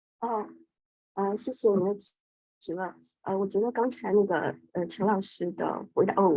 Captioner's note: professor speaking in foreign language